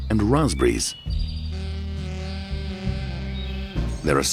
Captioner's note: birds chirping